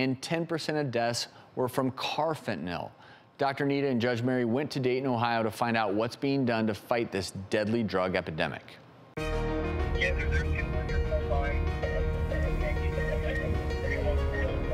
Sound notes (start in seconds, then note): 9.2 dramatic music; 10.4 police radio